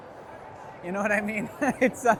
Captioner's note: laughs